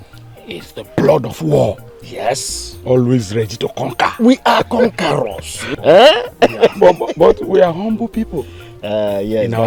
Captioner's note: laughter